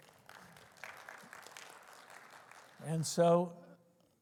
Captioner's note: applause